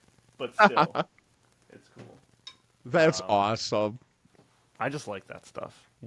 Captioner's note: laughing